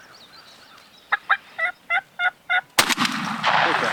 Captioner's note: turkey call yelping; gunshot firing